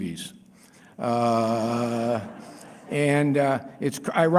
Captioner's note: laughter